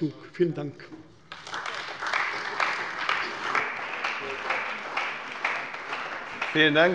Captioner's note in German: Beifall bei der CDU und dem BÜNDNIS 90/DIE GRÜNEN